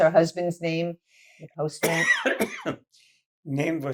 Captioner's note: coughing